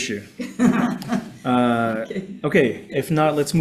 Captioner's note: attendees laughing